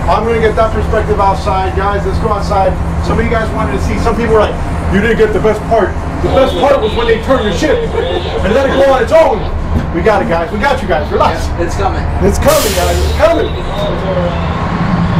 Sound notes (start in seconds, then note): 7.0 laughs